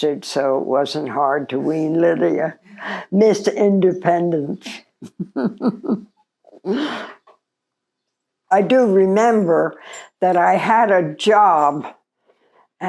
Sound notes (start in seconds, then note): 5.0 chuckling